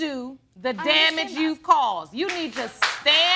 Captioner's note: audience applauds